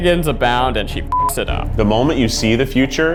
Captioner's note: beep